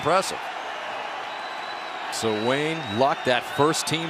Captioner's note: cheering